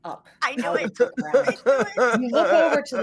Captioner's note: mimicking sobbing